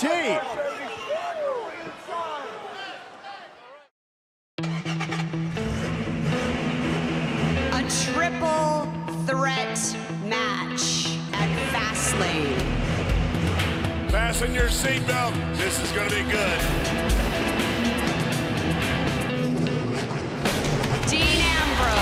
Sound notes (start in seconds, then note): 7.0 engine revs